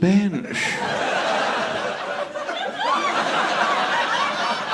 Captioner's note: audience laughing